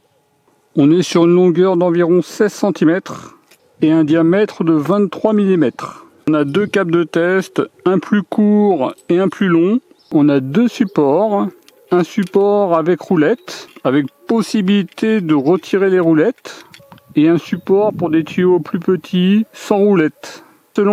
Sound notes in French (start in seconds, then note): 3.1 grognement